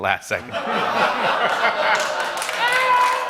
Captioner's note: laughter; laughter and applause